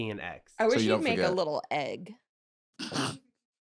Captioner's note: snorts